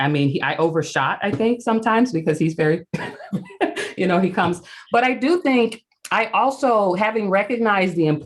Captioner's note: laughs